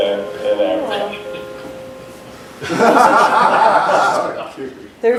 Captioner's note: laughter